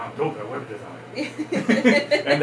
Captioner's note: laugh